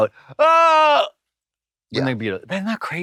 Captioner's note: Katya hollers